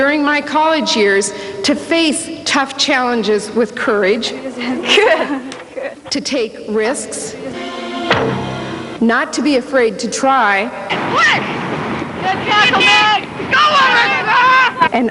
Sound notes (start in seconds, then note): 4.6 laughter; 13.4 cheering and shouting